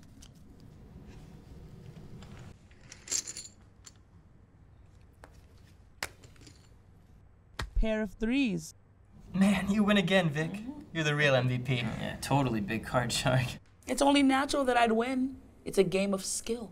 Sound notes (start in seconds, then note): none